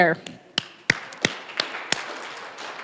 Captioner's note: applause